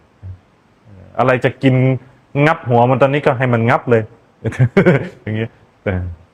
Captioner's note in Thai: เสียงหัวเราะ